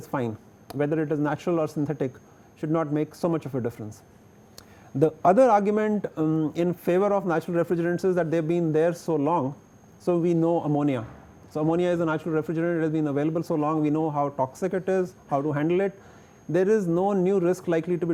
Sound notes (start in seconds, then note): 10.7 air conditioning